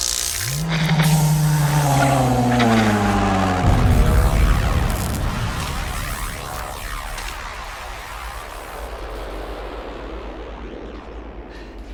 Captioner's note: dramatic music; moaning